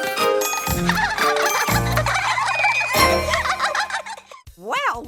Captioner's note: kids giggling